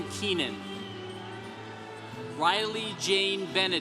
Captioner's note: congregation cheering